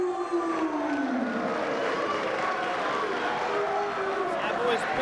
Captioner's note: spectators cheering and applauding